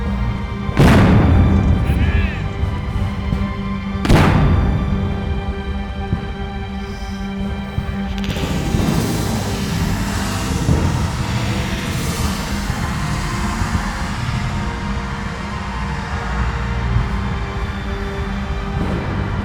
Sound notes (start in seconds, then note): 7.9 cannons booming; 10.8 tense music continues